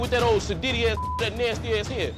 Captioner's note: beep